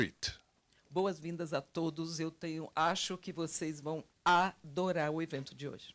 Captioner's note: translator speaking Portuguese